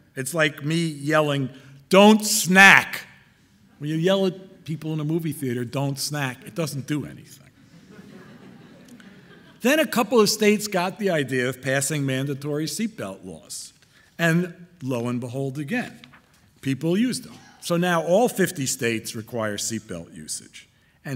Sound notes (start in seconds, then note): 7.6 audience laughing